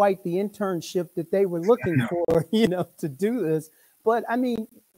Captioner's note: laughs